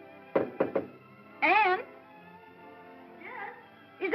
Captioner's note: ballroom music; knocking